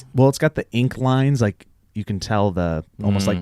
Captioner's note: none